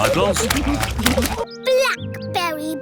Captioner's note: laughter